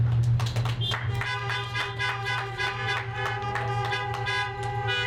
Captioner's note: clapping; horns honking